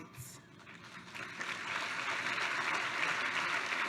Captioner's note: applause